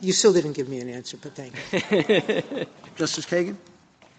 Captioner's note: laughter